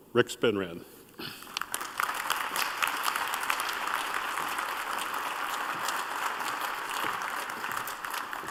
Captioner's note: applause